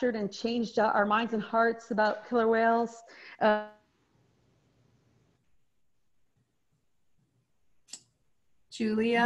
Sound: video freezes and no audio

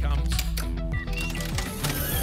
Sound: electronic sounds; ticket dispenser sound

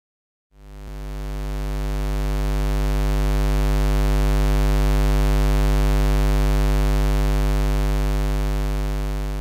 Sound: square wave sound

